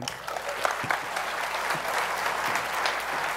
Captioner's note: applause